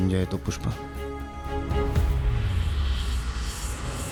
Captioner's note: atmospheric sound